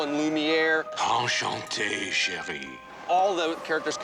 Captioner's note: speaks french